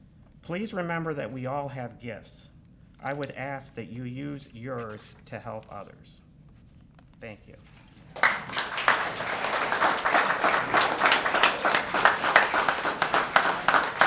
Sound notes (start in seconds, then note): 8.1 applause